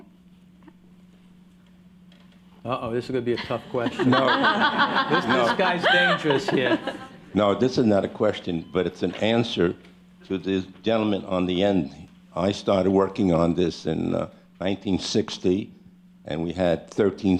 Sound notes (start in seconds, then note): 1.7 laughter